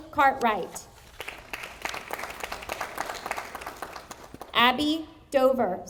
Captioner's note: audience applauding